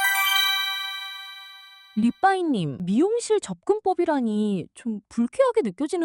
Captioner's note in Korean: 종소리